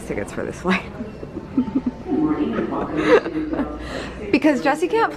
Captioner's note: laughing